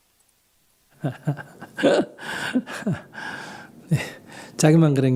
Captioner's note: laughter